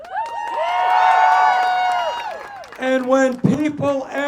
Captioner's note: applause